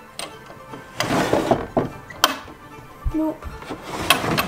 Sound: closet sliding

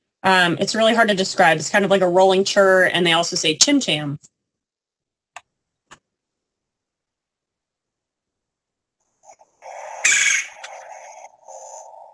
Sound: sound effect

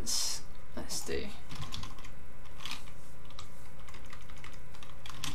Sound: keyboard clicking

